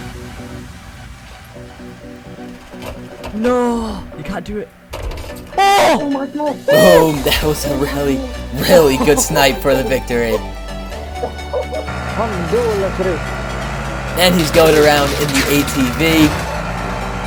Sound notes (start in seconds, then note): 5.5 teammate screaming